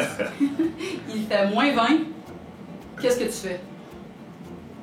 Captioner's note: still in french